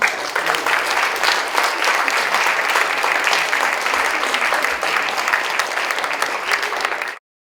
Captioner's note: applause